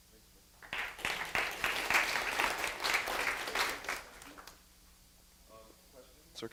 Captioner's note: applause